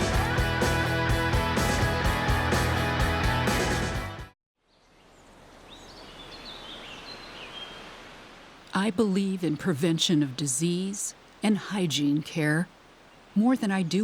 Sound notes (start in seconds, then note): 5.6 birds chirping